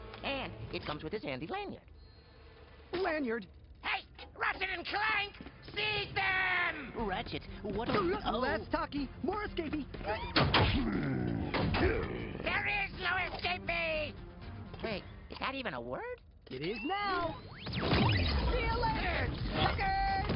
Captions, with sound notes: And it comes with this handy lanyard. Lanyard. Hey! Ratchet and Clank? Seize them! Ratchet, what the... Oh. Less talky, more escapey. [growling] There is no escapey! Wait, is that even a word? It is now. [whirring] See ya later, suckers.